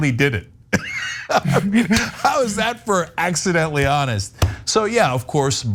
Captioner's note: laugh